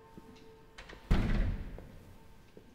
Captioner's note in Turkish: Kapı kapanma sesi